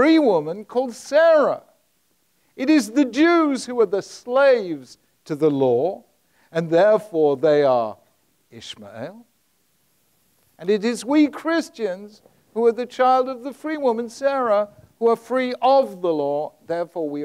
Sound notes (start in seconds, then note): none